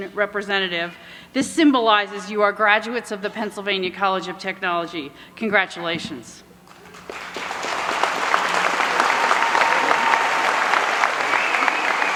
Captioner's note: applause